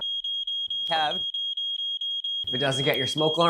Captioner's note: alarm blaring